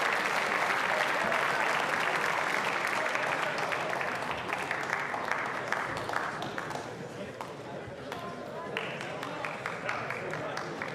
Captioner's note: applause